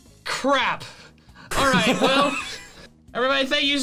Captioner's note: laughs